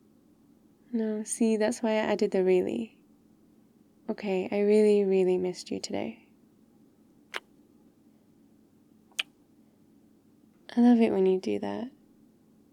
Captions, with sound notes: no, see that's why I added the really ok, I really really missed you today *kiss* *kiss* I love it when you do that